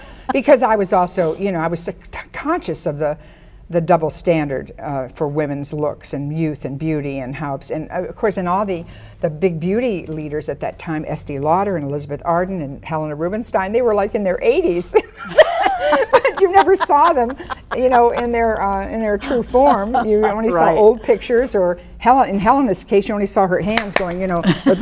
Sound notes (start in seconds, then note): 15.0 women laugh; 23.7 claps